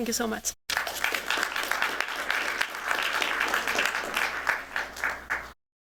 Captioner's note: applause